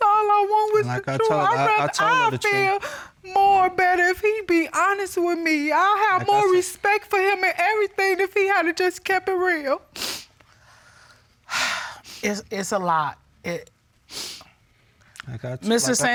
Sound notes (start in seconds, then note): 9.9 sniffles; 12.0 sighs; 14.1 sniffles